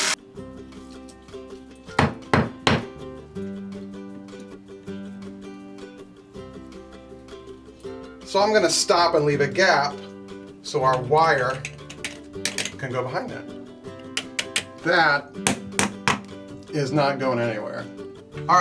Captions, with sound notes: (hammer banging) (light music) So I'm gonna stop and leave a gap so our wire can go behind that. That, is not going anywhere.